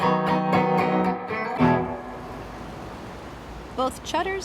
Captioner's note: waves crash